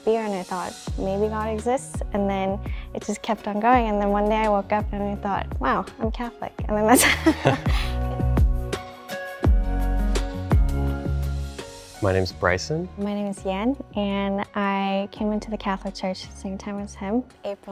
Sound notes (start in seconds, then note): 6.9 both laugh; 7.6 calm music